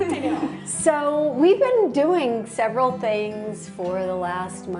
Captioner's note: laughter